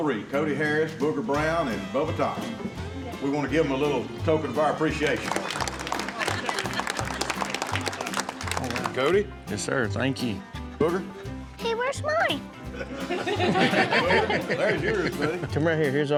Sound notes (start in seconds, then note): 5.0 applause; 12.6 laughter